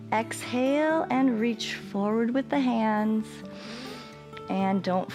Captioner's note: inhales